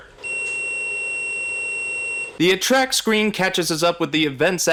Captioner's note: beep & face